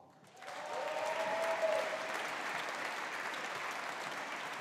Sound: audience applauding

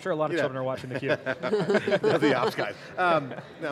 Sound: laughs

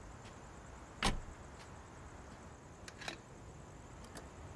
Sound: car door bangs

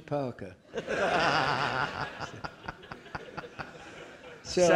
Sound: audience laughing

